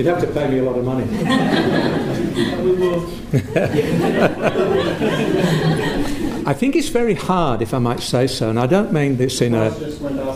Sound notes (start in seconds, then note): 3.2 laughter